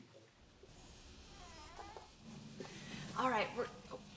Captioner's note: door creaks